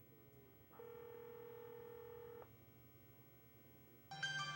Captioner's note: telephone ringing